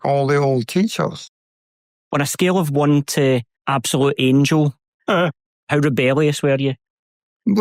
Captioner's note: laughs